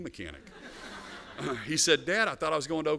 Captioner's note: laughter